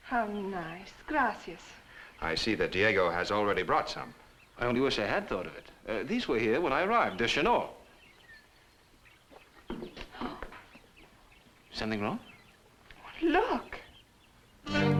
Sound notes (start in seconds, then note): 10.4 gasps